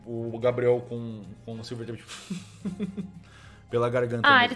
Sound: muffled laugh

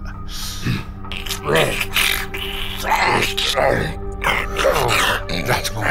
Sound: Slurping and choking as Loam tries to speak

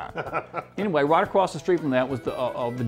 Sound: laughs

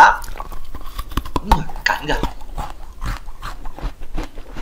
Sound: the sound of strawberry biting loudly surprised

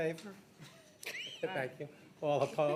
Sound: people laughing

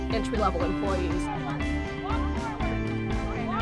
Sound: encouraging Chants

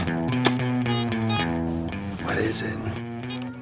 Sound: beeping; beeping

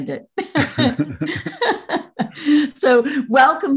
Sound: both laugh

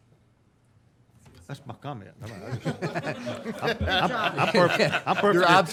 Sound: all laughing

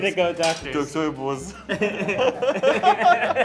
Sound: speaks in foreign language; group laughs

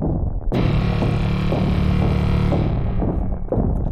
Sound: machine grinding

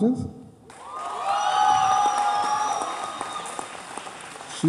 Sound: cheers

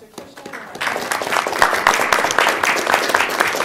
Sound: applause

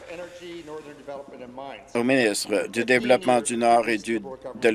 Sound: applause

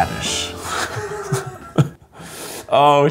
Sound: laughs

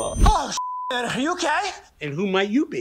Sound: sighs; beep

